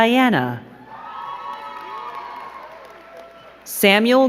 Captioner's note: crowd cheering and clapping